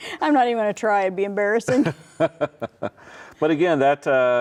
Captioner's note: laughs